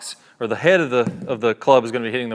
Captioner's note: club thuds